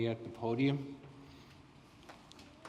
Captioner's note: applause